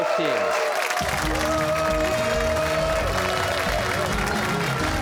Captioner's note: cheers and applause